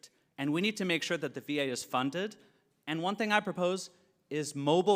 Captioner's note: none